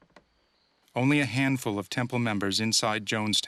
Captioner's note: voiceover